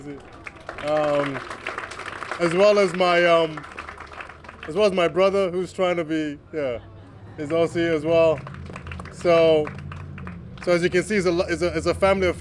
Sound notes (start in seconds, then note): 4.1 applause